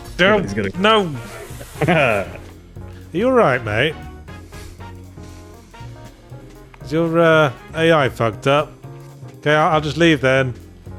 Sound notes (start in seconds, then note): 1.2 laughs